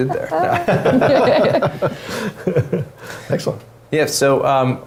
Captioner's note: laugh